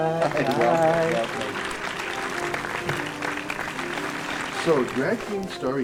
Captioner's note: applause continues; instrumental Music -- theme